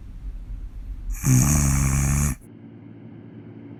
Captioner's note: snoring